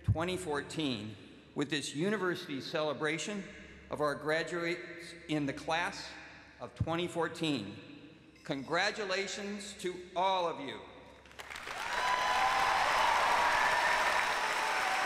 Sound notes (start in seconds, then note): 8.0 cheers and applause